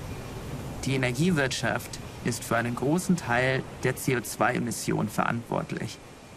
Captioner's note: non-english speech